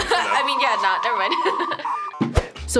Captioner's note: laughs